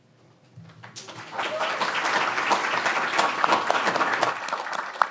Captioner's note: audience applauds